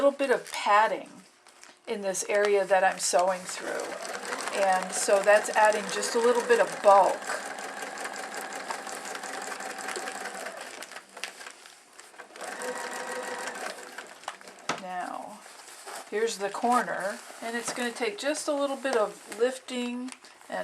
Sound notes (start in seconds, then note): 7.9 sound of sewing machine